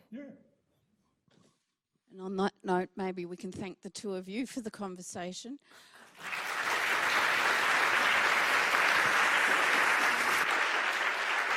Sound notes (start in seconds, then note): 6.0 audience clapping